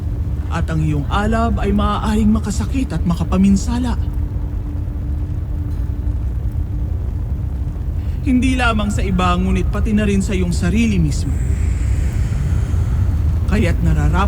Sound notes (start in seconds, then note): 4.6 fire crackling; 4.6 pensive music playing; 11.3 guttural roar; 11.5 infernal whoosh-crackle